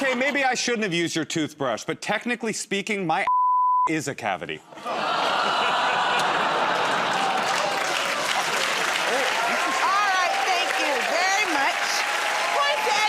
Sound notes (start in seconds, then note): 6.0 audience groans; 7.7 applause